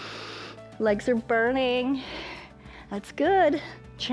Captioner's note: inhales